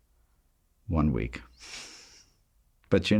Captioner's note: laughs